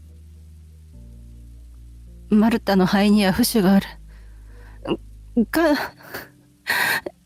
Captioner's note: laughs